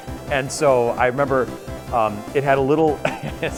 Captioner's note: laughs